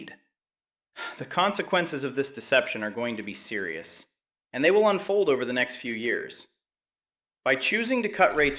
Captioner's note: sighs